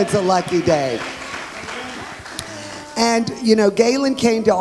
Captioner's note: audience applauds